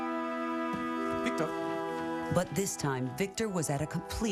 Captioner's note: speaking in french